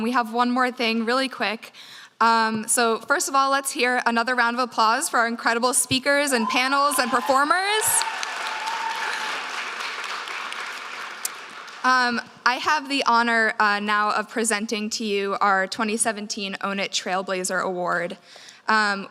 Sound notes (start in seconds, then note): 8.5 audience cheers